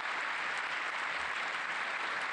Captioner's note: applause